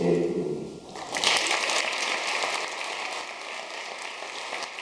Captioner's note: audience clapping